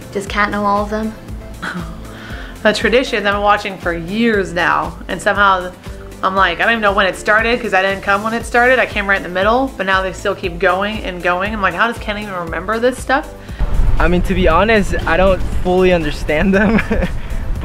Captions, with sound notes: Does Kat know all of them? - (chuckles) The traditions I've been watching for years now, and somehow I'm like, I don't even know when it started. 'Cause I didn't come when it started, I came right in the middle, but now they still keep going and going. I'm like, how does Ken even remember this stuff. - I mean to be honest, I don't fully understand them,